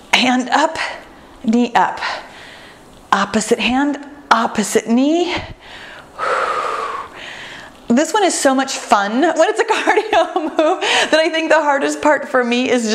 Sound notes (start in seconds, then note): 5.5 exhales deeply